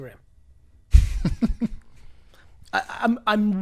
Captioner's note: laughs